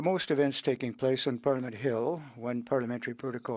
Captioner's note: speaking French